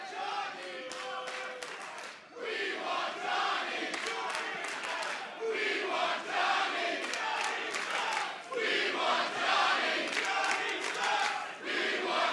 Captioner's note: fans chanting